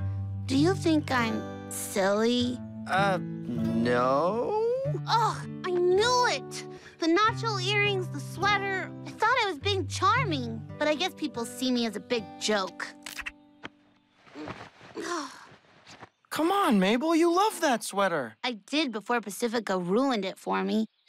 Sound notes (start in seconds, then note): 14.9 sighs